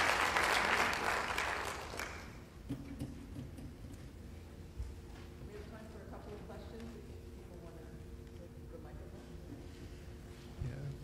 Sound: applause

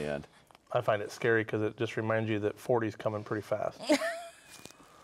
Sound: laughs

